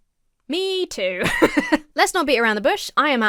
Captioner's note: laughs